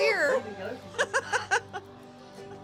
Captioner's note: laughs